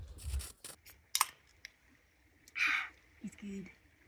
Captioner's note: sound of can opening